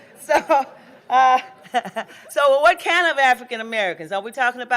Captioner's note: laughing